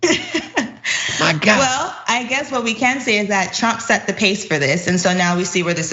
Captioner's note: laugh